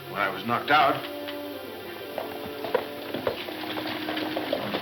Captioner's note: hooves clomping